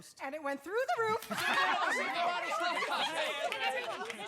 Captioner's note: cheering, excited chatter